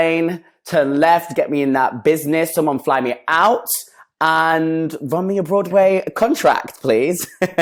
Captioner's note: laughs